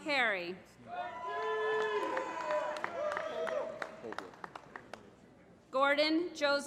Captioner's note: applause